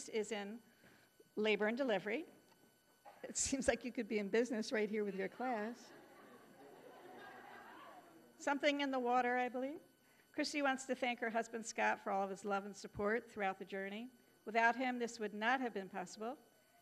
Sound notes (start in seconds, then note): 5.8 audience laughing